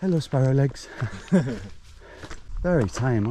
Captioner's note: chuckling